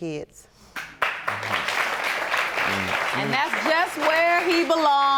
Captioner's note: audience applauding